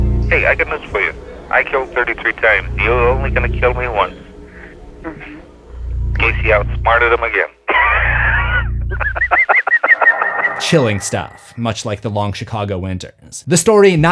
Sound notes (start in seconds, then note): 7.6 laughing; 7.6 chuckles